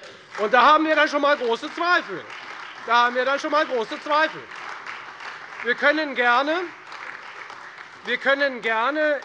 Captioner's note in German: Beifall Freie Demokraten, SPD und vereinzelt AfD